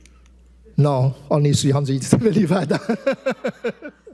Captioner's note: laughs